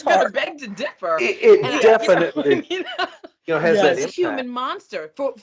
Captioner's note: laughing